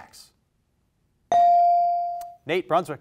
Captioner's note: bell rings